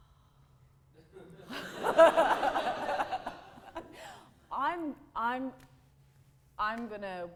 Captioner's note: audience laughter